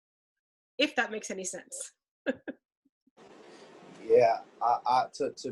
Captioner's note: laughs